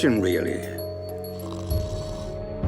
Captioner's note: sipping